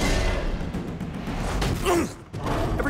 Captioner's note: grunts